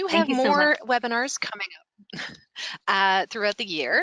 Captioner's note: laughing